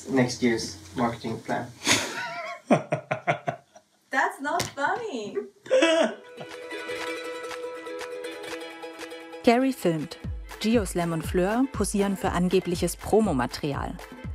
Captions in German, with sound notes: (Lachen) (Unruhige, schnelle Musik) Gary filmt. Geo Slam und Fleur posieren für angebliches Promomaterial.